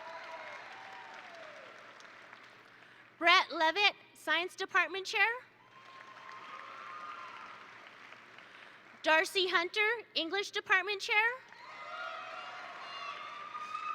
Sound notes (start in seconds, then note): 0.0 attendees cheer; 0.0 attendees applaud; 5.6 attendees cheer; 5.7 attendees applaud